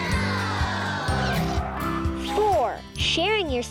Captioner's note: X screeching